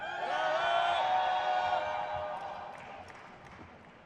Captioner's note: crowd cheers